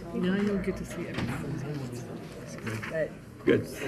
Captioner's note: people chattering